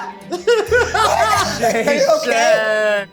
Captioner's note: laughs